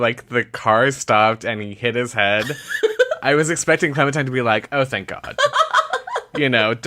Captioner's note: laughter